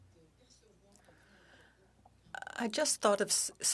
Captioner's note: speaking French